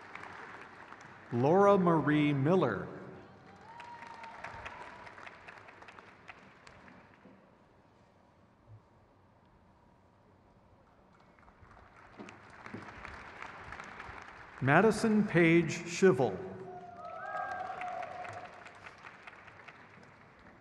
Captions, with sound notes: Associate Professor Osteopathic Medical Specialties. (crowd claps) Risa A. Lugo. (crowd cheers)